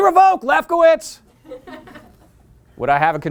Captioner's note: laughter